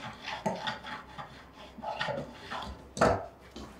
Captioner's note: tool scraping